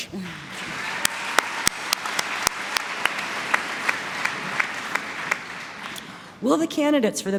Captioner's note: applause